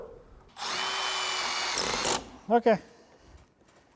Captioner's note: screw drill whirring